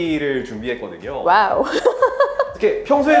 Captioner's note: laughs